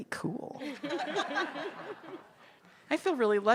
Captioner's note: people laugh